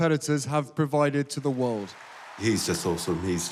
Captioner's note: cheering, applause